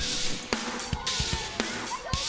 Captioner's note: vibrant music; campers faintly shouting